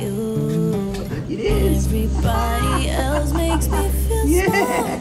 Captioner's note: laughing